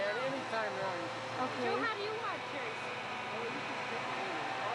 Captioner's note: sounds of machines and distant speaking